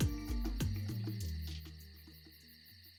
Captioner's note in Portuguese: cricrilar de grilos